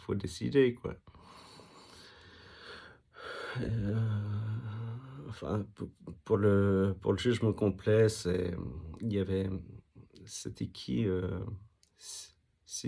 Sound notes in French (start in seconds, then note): 1.3 soupir